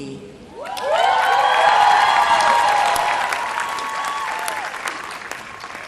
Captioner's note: cheering